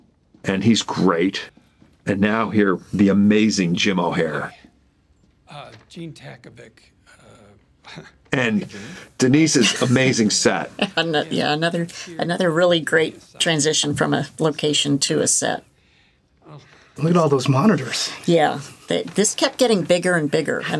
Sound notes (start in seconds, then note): 7.8 chuckles